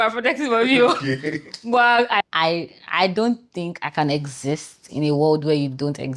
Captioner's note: laughs